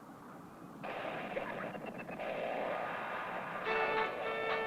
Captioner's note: tunning radio; country music